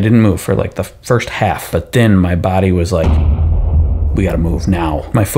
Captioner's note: explosion sound